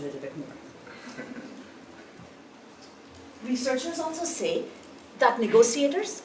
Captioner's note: laugh